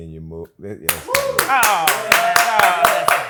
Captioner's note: clapping